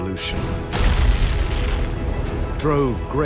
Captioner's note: booming